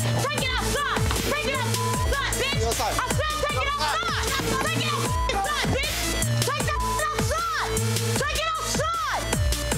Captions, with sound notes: Bring it outside. Bring that (beep) outside, bitch. I said bring it outside. Bring it out (beeps) side, bitch. Bring that (beeps) outside. Bring it outside.